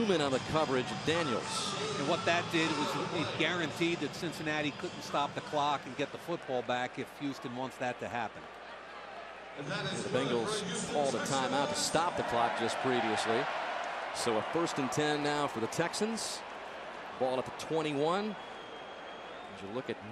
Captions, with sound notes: Terence Newman on the coverage of Daniels. And what that did was it guaranteed that Cincinnati couldn't stop the clock and get the football back if Houston wants that to happen. [pa announcement] Bengals called a timeout to stop the clock just previously. So a first and 10 now for the Texans, ball at the 21.